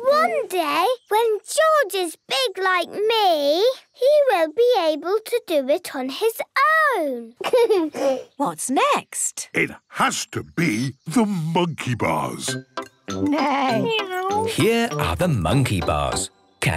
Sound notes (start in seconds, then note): 7.4 giggles